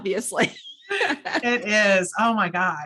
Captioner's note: both laugh